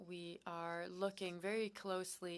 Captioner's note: speaking French